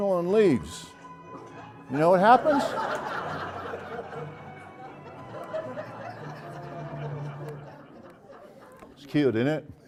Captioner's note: laugh